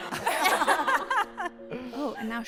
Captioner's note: laughter